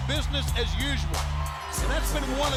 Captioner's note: applause